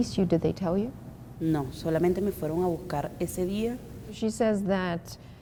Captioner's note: speaking Spanish